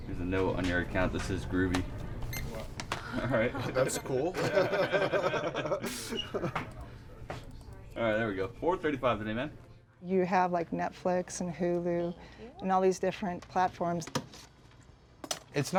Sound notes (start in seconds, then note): 2.0 scanner beeping; 4.4 laughing; 4.4 woman laughing